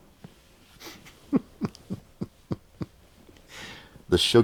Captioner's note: laughing